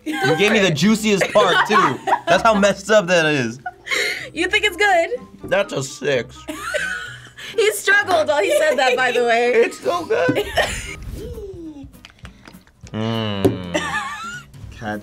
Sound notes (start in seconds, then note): 1.0 laughing; 4.9 mischievous music; 6.5 laughing; 10.0 groaning; 10.0 laughing; 11.9 liquid shaking; 12.9 groaning